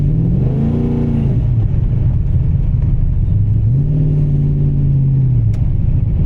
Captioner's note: engine revving